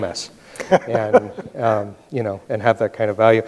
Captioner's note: laughs